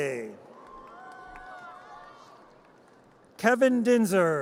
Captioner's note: audience cheers